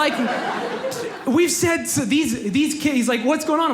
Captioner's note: audience laughs